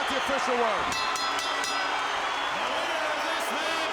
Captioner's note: bell ringing